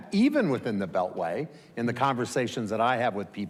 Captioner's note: none